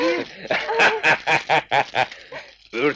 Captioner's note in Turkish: Kahkahalar